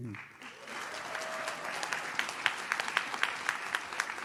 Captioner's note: audience claps